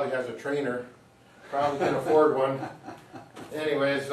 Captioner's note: chuckling